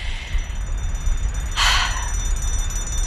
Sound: sigh

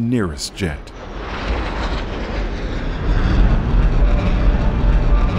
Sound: planes whirring

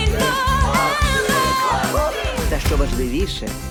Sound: crowd

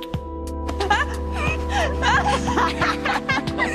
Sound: laughing

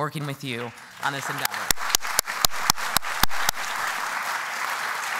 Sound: applause

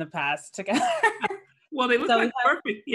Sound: laughs

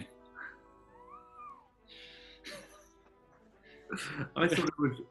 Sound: sniggering

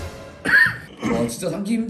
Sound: cough

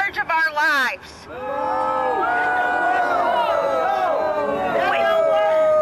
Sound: crowd boos

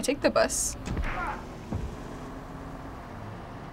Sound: punch lands, man groans

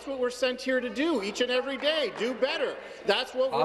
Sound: applause

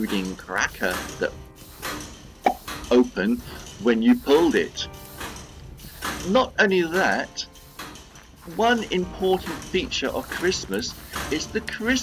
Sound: pop!

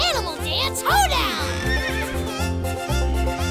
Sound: neighing

